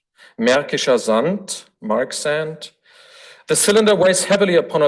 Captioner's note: foreign language